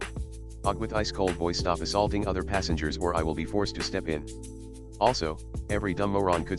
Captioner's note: with ice-cold voice